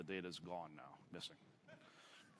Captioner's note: laughter